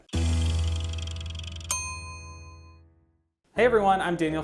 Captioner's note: timer ringing